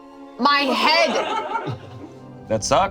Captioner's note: group laughs